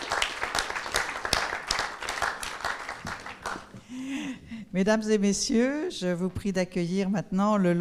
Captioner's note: applause